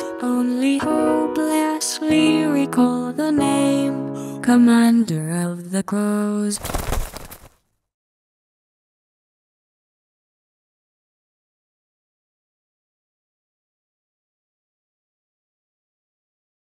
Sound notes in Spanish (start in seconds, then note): 6.5 revoloteo de pájaros